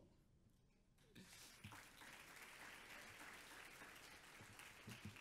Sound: audience applauds

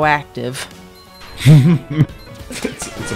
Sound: laughs

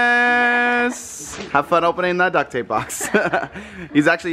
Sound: laughs

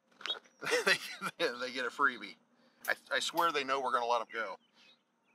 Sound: laughing

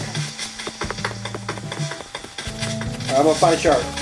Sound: foot steps

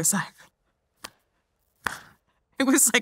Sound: clapping hands

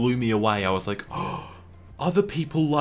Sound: le gasp xd

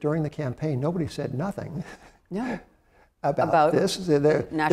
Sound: laughs

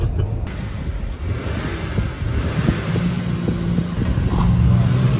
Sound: engines revving

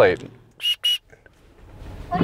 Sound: whistle

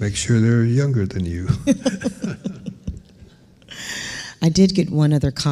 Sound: laughing

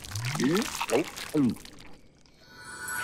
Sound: gulp

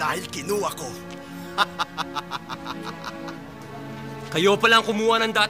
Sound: laughs

